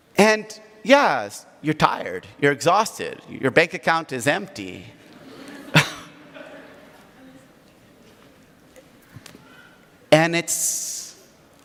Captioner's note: audience laughs